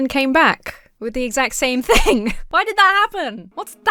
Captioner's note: chuckles